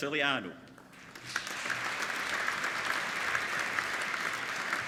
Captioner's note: applauding